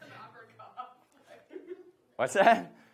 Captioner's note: speaking away from mic